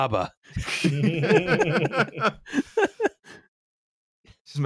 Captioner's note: laughter